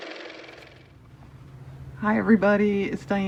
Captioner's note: car motor